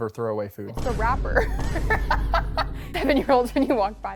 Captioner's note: laughs